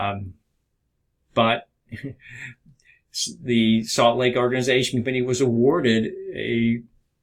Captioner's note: chuckles